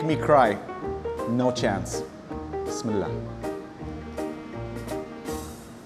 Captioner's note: speaks Arabic